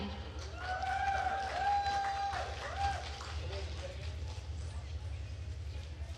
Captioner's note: attendees cheering and applauding